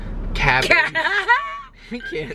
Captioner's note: laughter